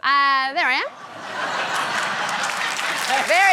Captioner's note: laughter, applause